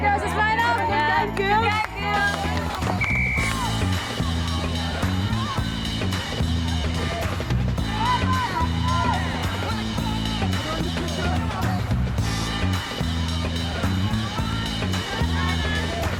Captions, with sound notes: All right girls, let's line up. (whistle blows) (energetic music)